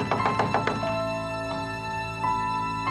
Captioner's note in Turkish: kapıyı tıklatıyor